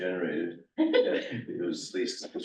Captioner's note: laughter